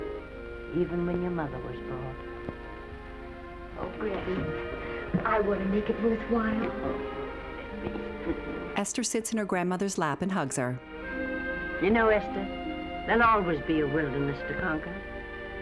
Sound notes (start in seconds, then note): 8.2 Lettie chuckling; 8.6 hopeful music